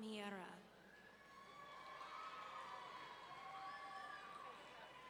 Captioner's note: audience cheering